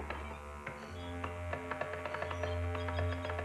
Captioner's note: typing